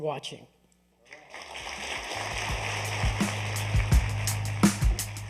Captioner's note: applause